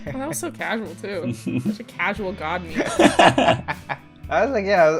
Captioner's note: laughter; laughter